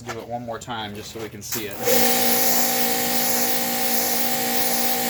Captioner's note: machine whirring